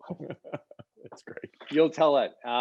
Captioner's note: laughter